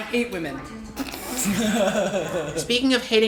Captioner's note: laughter